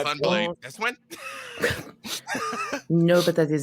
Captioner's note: group chuckling